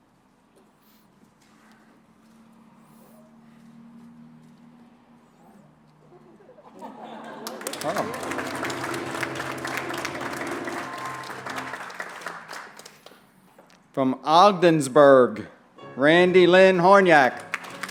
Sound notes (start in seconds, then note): 6.0 laughter; 7.2 applause